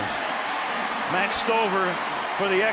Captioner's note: cheering